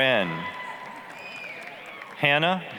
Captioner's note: applause, cheering